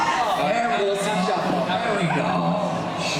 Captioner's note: everyone talking